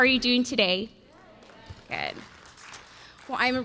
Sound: audience responds

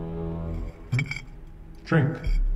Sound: fork scrapes plate

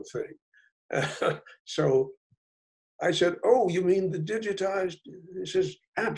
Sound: laughs

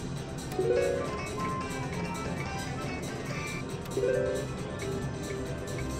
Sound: machine beeps

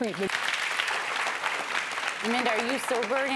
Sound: audience applauds

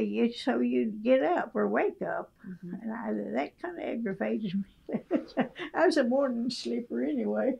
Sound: laughs

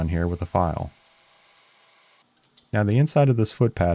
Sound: lathe machine whirring

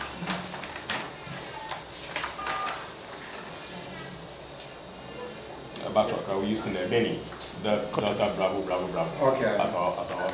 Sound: rustling of papers

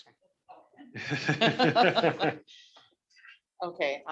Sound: laughter

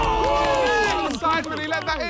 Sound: players shout and cheer

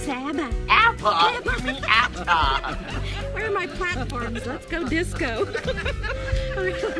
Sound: both laugh

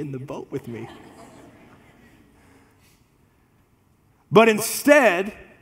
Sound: congregation laughs

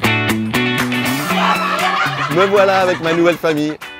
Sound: cheers

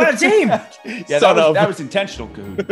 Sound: laugh

